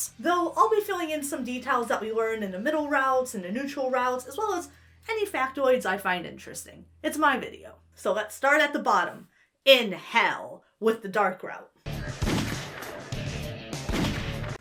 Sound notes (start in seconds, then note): 11.9 heavy metal music; 12.1 gun fires